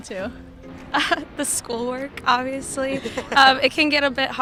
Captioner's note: laughs